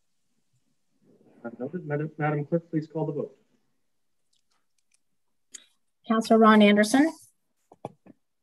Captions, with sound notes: Not Madam, please call the (murmuring) - Councillor Ron Anderson.